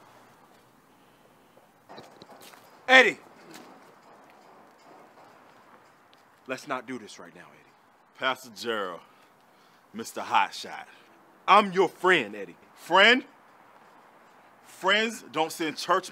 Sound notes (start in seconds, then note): none